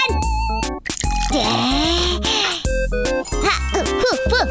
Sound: happy music; water pours

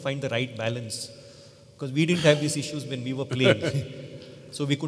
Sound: Sadhguru Laughs

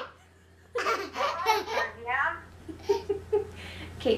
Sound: laughs

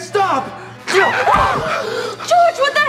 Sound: angel screams

